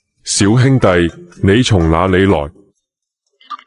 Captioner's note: Cantonese